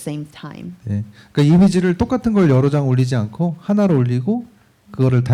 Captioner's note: speaking korean